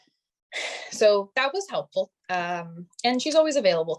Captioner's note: sighing